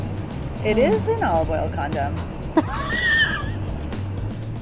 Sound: laughing

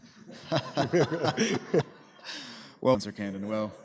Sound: laughter

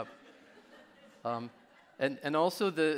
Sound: audience laughing

